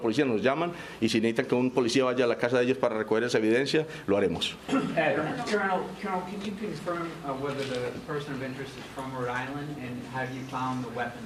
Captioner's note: speaking spanish